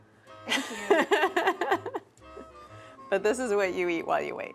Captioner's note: laughs